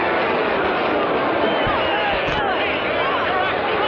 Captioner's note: angry shouting